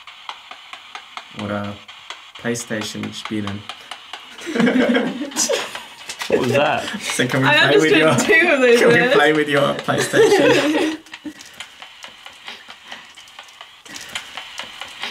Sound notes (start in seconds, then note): 9.6 laughs